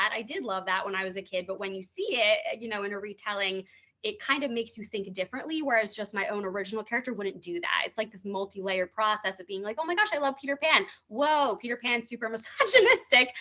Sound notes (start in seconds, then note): none